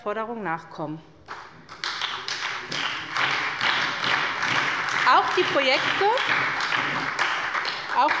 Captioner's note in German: Beifall bei der SPD